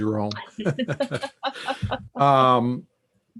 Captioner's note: both laugh